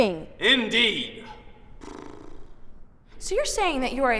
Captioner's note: sputters like a horse